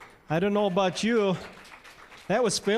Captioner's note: applause